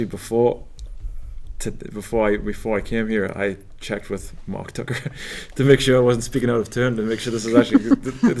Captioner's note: laugh